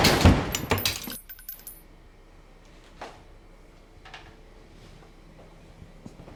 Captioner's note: gunshot